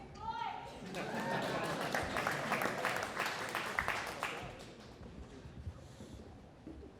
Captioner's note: audience applauding